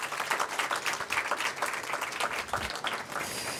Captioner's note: applause